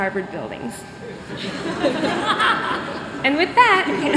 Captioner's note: laughter